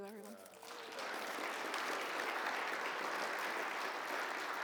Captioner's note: audience applauds